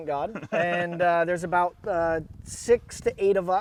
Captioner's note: chuckling